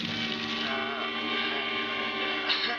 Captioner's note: dramatic music; groaning